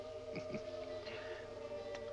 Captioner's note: chuckling